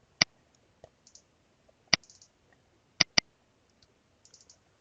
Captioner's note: mouse clicking